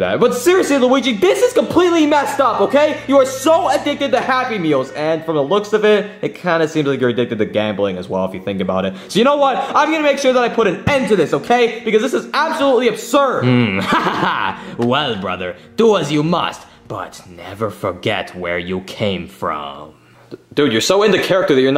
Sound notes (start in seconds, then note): 13.4 laughing